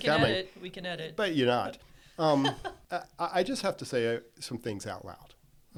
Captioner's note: laughs